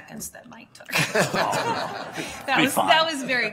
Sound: audience laughter

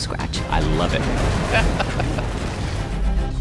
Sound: laughs

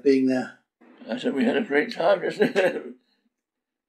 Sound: laughs

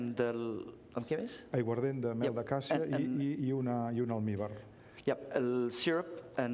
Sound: speaking catalan

